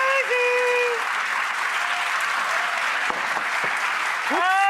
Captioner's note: applause